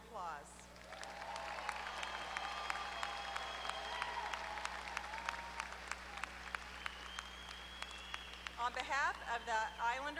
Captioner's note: applause